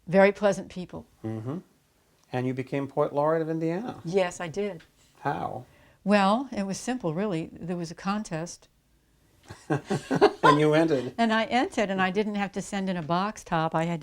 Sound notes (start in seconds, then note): 9.5 laughs